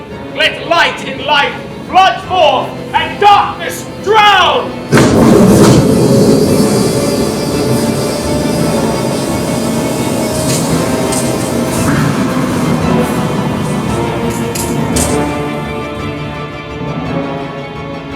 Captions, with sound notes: Let light and life flood forth and darkness drown! [ Storm rumbling ] [ Dramatic music plays ]